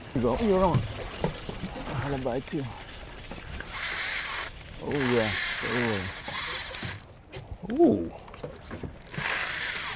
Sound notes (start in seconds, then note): 0.8 reels zipping